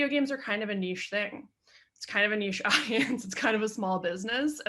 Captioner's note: chuckles